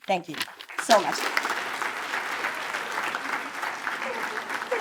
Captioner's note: attendees applaud